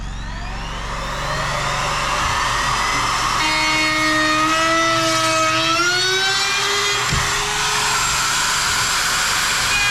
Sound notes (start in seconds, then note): 0.0 motor whirring